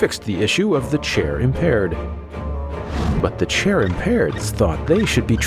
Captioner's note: wheel squeaking